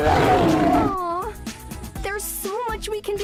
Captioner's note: awwww